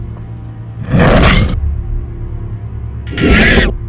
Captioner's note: growling; screeching